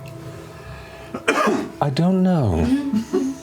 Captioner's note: coughing